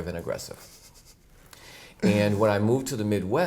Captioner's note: chuckles